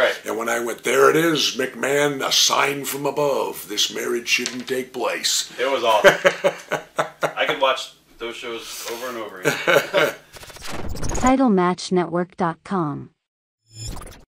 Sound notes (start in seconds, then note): 5.8 Jesse laughs; 9.4 Jesse laughs; 10.4 electronic music